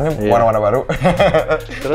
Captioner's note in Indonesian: ketawa